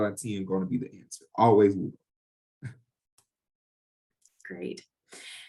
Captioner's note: chuckles